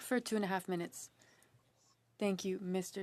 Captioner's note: speaking French